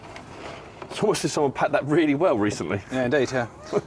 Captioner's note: laughter